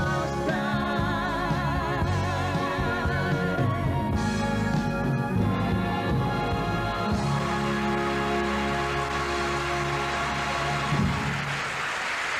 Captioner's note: cheers and applause